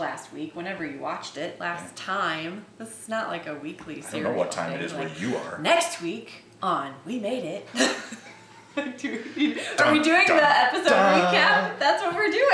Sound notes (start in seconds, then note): 7.7 laughing